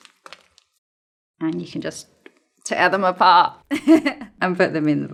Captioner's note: chuckles